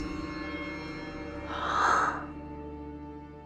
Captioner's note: sighs